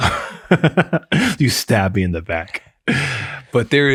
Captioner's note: laughs